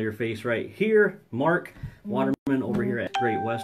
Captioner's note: phone vibrates and dings